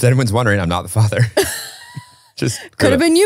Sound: both laughing

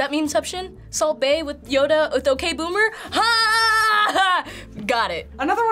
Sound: triumphantly

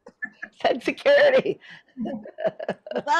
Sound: laughs

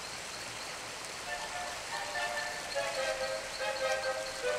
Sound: clopping sound

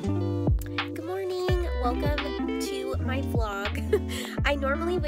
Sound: laughs

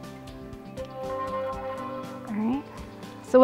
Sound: tone ringing

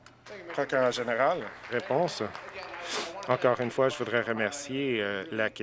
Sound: some Applause

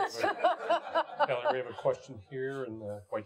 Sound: audience laughing

